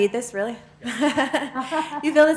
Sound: laughter

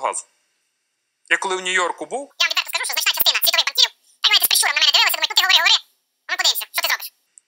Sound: chattering

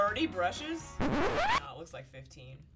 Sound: record scratch

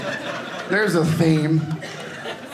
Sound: audience laughing

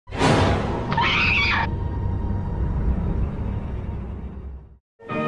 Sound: dramatic music; woman screaming

